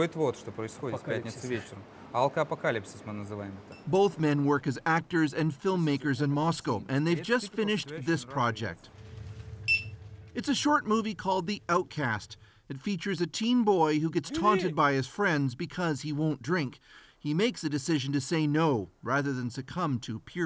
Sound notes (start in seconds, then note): 5.9 speaking russian